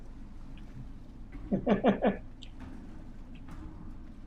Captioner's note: chuckles